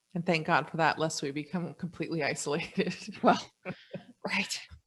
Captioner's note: laughs